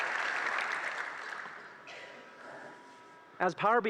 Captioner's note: applause